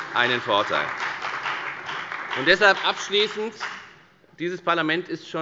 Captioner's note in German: Beifall bei der FDP und bei Abgeordneten der CDU